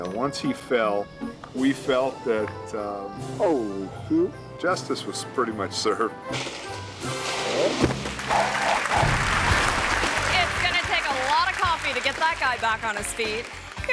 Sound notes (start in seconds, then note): 7.5 body thuds; 8.0 audience cheering and clapping